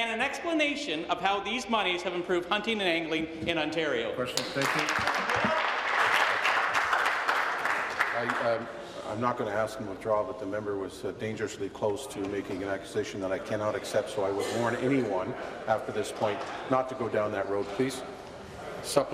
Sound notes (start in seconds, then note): 8.0 applause